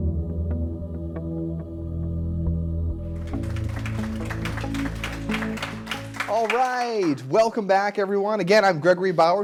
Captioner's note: applause